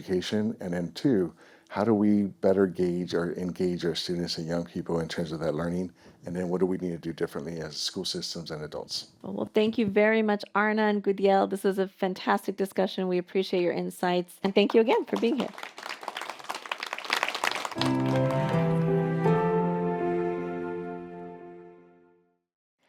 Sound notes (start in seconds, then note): 14.8 audience applauding; 17.7 calming music